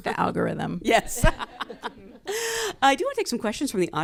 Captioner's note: laughs